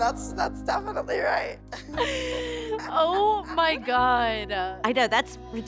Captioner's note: laughs